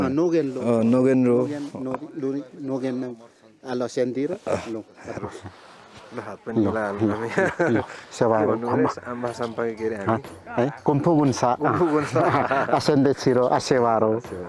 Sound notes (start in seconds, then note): 1.7 limbu dialect; 7.0 laughter; 11.6 laughs